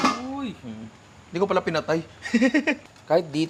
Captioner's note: laughs